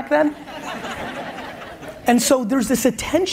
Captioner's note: audience laughs